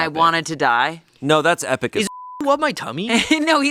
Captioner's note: beep